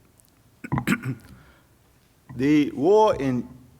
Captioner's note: coughs